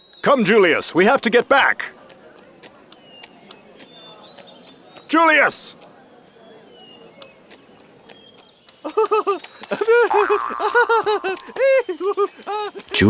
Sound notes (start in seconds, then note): 0.9 crowd murmuring; 2.2 footsteps tapping; 8.8 servant laughing joyously